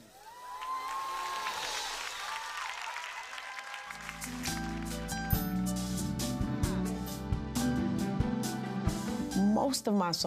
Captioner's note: crowd cheers